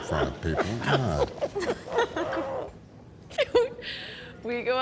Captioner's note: Angela laughs